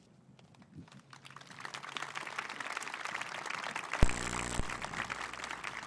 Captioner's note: applause